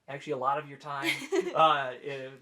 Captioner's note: laughing